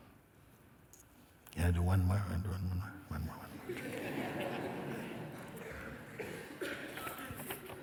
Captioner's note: laughter